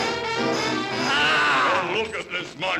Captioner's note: creature groans